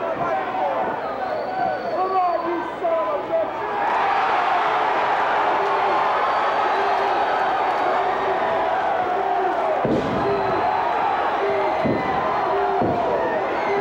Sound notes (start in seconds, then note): 4.6 crowd cheers